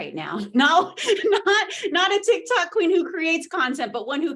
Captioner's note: laughs